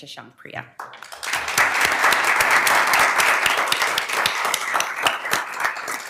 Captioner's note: attendees applauding